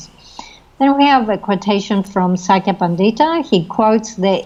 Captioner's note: speaking foreign language